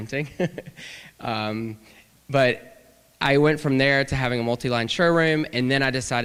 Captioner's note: laughter